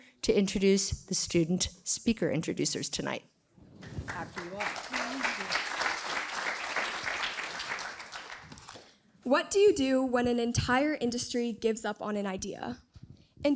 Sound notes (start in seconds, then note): 5.9 applause